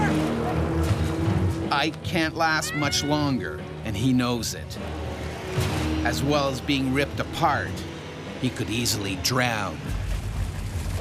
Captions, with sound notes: - Over here! - [Voiceover] Ike can't last much longer. And he knows it. As well as being ripped apart, he could easily drown.